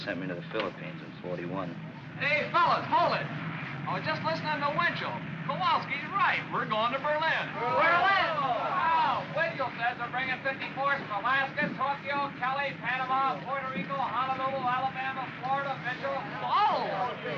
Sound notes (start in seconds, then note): 7.2 men clamor & grumble; 17.1 men grumbling